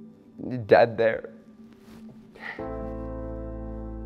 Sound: sobs

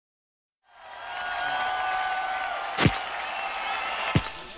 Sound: crowd cheers and applauds

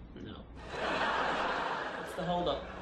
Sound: audience laughs

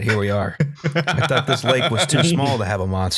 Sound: laughs

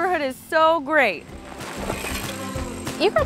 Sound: bike peddling

